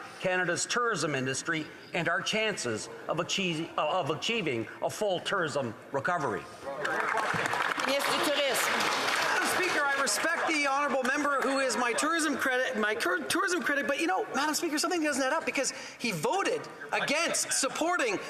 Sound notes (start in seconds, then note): 9.5 applause; 13.2 speaking in French